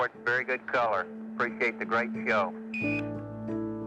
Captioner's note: beeping